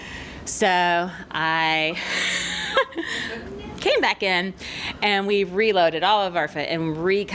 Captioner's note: laughs